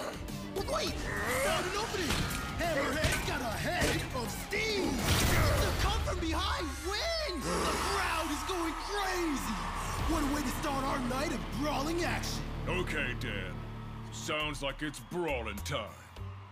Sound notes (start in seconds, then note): 7.4 roaring; 7.6 crowd cheering